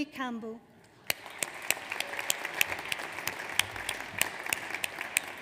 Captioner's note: audience applauds